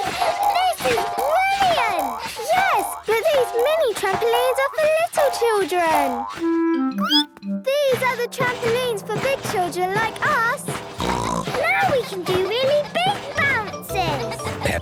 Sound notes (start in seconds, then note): 0.0 giggles, snorts; 6.8 squeaks; 9.2 snorts